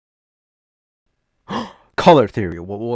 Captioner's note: gasp